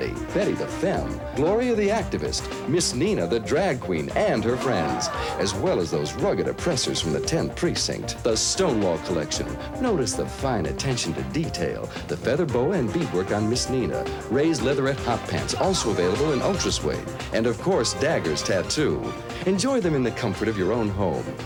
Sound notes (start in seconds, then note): 4.4 audience howls